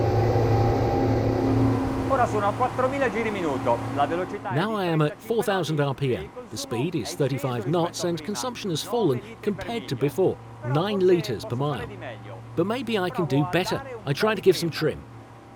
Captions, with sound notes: (speaking in foreign language) Now I am at 4,000 RPM. The speed is 35 knots and consumption has fallen compared to before, nine liters per mile. But maybe I can do better. I try to give some trim.